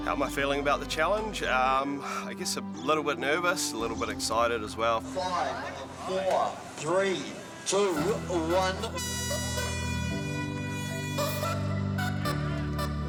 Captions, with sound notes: How am I feeling about the challenge? I guess a little bit nervous, a little bit excited as well. - Five, four, three, two, one. (HORN BLARES) (SYNTH MUSIC)